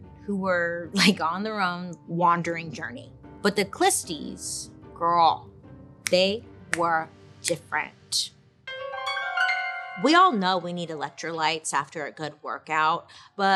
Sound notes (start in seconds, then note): 6.7 clicking fingers; 8.6 eerie piano music